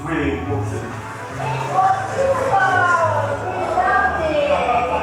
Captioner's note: people chattering